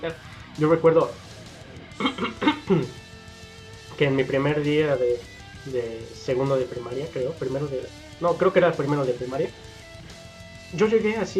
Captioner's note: clears throat